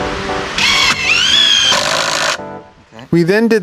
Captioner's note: drill whirring